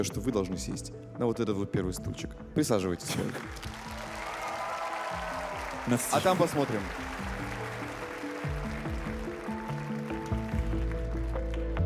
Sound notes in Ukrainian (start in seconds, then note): 9.8 оплески